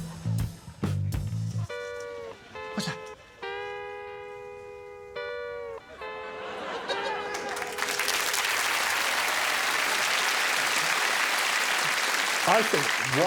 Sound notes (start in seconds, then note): 0.2 audience tittering; 0.2 upbeat music; 5.9 audience laughing; 6.4 upbeat music; 8.7 audience applauding